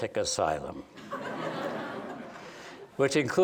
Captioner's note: laughter